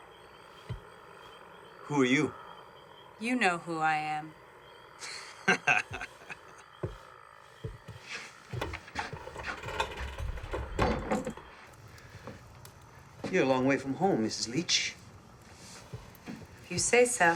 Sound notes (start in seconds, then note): 5.0 Alfred laughs